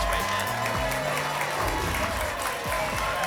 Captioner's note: applause and cheering